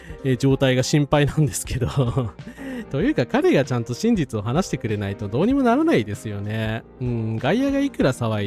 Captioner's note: laugh